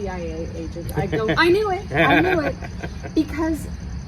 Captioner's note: laughs